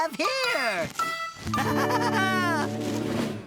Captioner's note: laughing